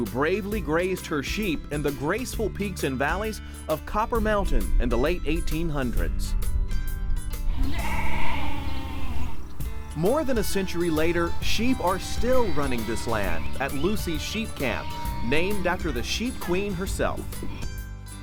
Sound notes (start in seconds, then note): 7.5 sheep bleating